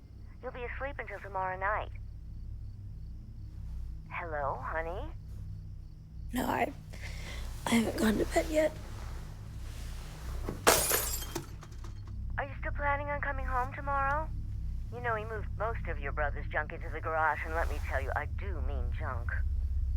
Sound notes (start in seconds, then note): 10.6 shattering